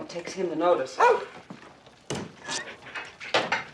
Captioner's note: barking